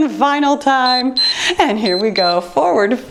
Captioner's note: timer beeps